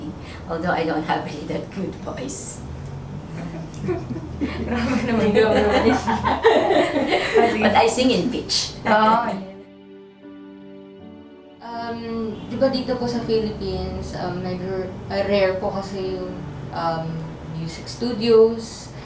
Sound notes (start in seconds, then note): 3.3 laughs